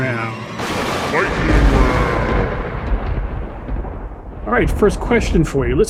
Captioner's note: thunder clapping